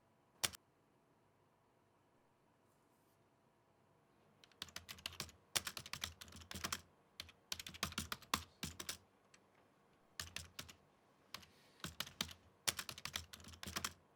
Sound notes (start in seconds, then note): 0.4 mouse clicks; 5.5 keyboard clicking